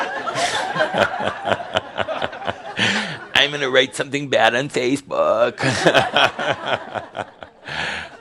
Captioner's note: laughter